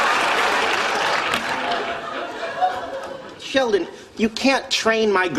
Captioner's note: audience laughter